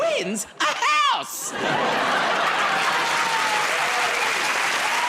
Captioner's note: laughter; cheers and applause